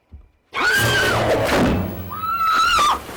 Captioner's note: woman screams